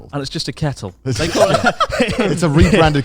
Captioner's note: laughing